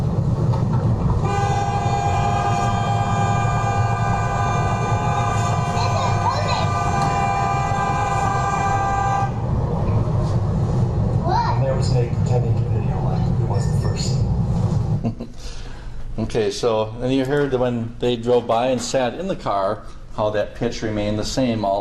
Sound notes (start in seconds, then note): 2.0 car horn